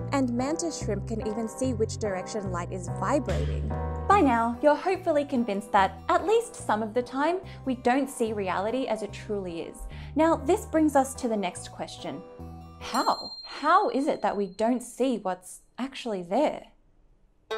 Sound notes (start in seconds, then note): 12.8 bell chimes